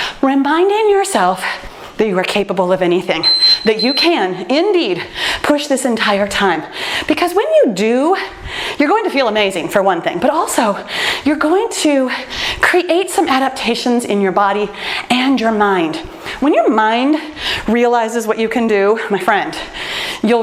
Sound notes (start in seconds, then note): 3.2 timer beeps